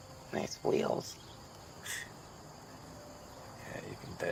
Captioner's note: scoffs